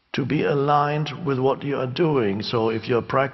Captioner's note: none